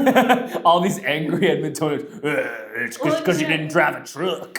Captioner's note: laughs